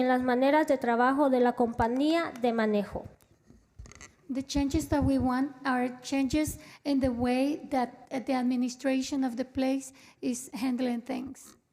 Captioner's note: spanish